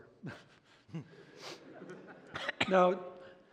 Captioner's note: laughter